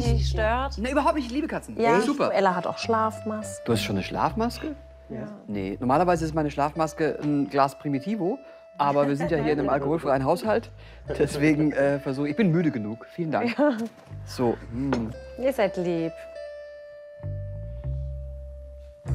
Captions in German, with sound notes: Wenn's dich nicht stört. - Nein, ich liebe Katzen. Ela hat auch Schlafmasken. - Du hast schon eine? Nee, normal ist meine Schlafmaske ein Glas Primitivo. Aber wir sind ja hier in einem alkoholfreien Haushalt. Deswegen, versuch ... Ich bin müde. Vielen Dank. - (lachend:) Ja. Ihr seid lieb. (Ruhige Musik)